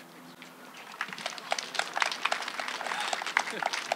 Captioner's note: applause